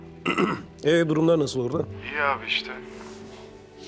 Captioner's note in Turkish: Hakan ses